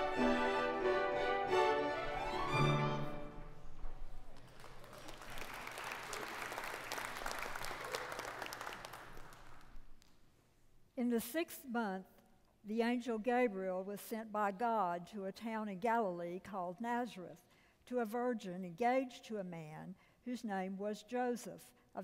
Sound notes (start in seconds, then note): 0.0 bright orchestral music; 4.3 congregation applauding